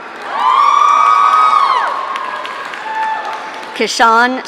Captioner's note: audience cheering